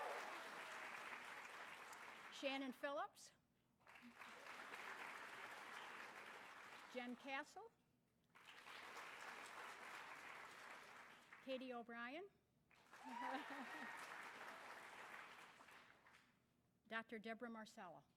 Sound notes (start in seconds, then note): 12.7 applause